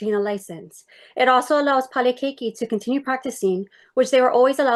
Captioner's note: speaks in foreign language